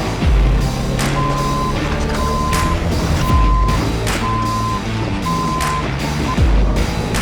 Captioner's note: upbeat music; metal scraping; vehicle beeping; upbeat music; vehicle whirring